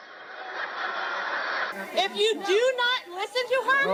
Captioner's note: laughing